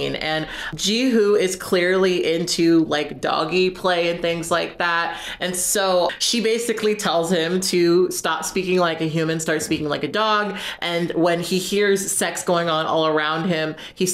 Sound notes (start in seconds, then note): none